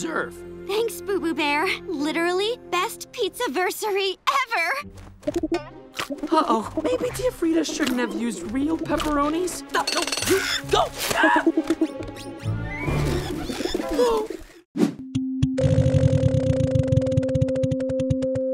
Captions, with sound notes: Thanks, Boo-Boo Bear, literally best pizza-versary ever. Uh-oh. Maybe Tia Frieda shouldn't have used real pepperonis. [groaning, screaming] Oh.